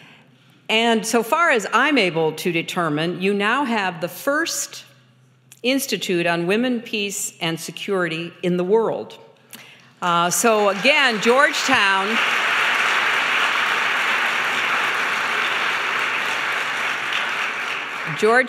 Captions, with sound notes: And so far as I'm able to determine, you now have the first institute on women, peace and security in the world. So, again, Georgetown-- (applause)